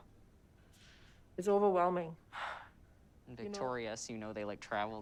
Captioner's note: sighing